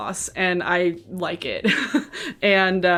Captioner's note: laughs